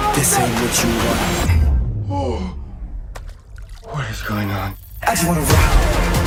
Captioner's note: gasps